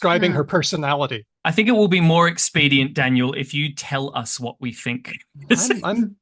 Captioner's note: laughs